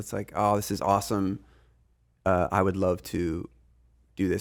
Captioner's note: none